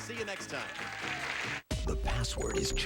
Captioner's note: audience applauding